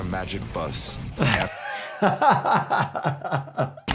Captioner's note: laughs